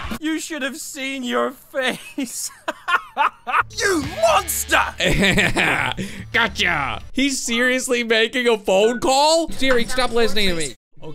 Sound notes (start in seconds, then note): 2.5 laughter; 5.4 laughs